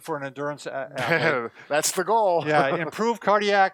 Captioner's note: laughs